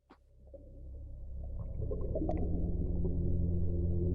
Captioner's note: water flowing